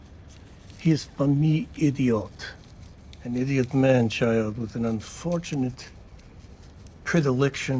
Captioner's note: non-english speech